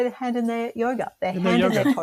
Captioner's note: laughs